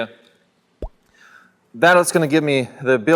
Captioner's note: cartoon pop